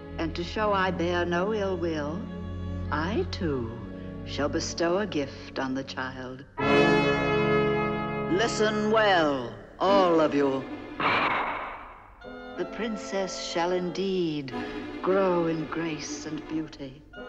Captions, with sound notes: And to show I bear no ill will, I, too, shall bestow a gift on the child. (menacing music) Listen well, all of you. (staff clattering) The Princess shall indeed grow in grace and beauty.